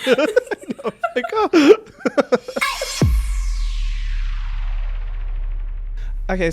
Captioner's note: both laugh; transition blasts